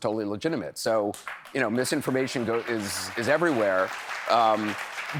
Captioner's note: applause